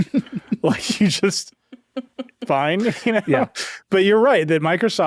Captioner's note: chuckles